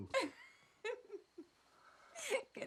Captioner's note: both laughing